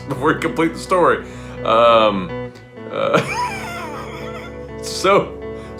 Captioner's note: laughs